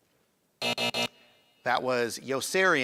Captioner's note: buzzing